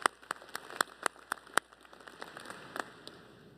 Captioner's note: applause